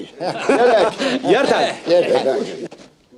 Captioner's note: haha